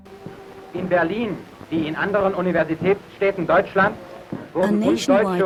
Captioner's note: speaking foreign language